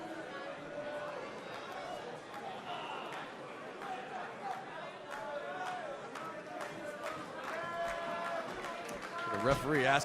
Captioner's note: crowd cheering